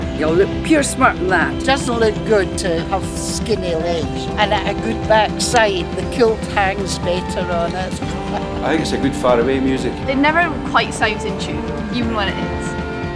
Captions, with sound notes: you'll look pure smart in that! It doesn't look good to have skinny legs, and a good back side, the kilt hangs better on it! (laughter) I think it's a good far away music, it never quite sounds in tune, even when it is...